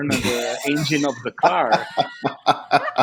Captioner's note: laughter